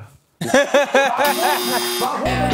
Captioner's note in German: Gelächter